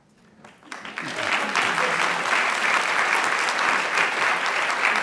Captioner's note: applause